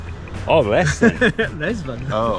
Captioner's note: chuckles